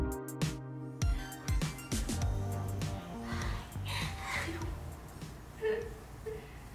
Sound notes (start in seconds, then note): 3.0 gasps; 5.6 laughs